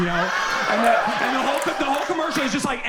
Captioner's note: audience laughs